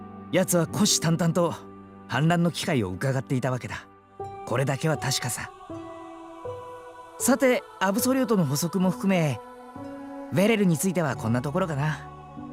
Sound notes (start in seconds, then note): 6.4 indignant